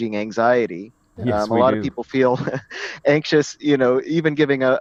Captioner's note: laugh